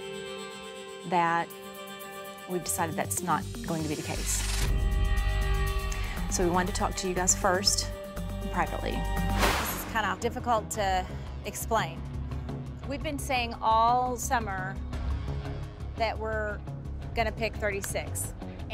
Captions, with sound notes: that we've decided that's not going to be the case. So we wanted to talk to you guys first and privately. (whoosh) It's kind of difficult to explain. We've been saying all summer that we're gonna pick 36